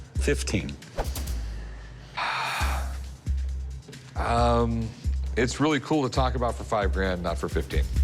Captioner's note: sighs